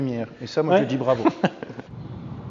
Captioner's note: laughs